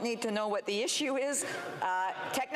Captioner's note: speaking FRENCH